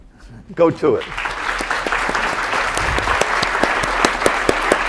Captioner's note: applause